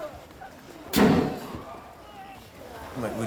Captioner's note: explosion